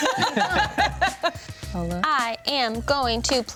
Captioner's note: everyone laughs